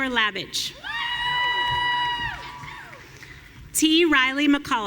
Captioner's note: audience cheering